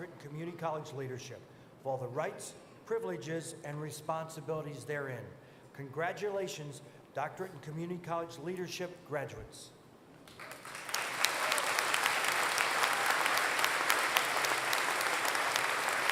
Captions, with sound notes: in Community College Leadership with all the rights, privileges, and responsibilities therein. Congratulations, doctorate in Community College Leadership graduates. [APPLAUSE]